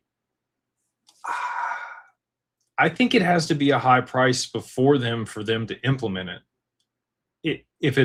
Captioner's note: sighs